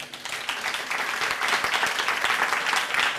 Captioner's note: applause